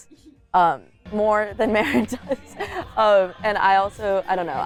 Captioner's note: laughs